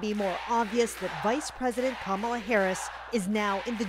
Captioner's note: chants